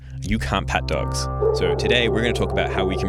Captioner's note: dog barking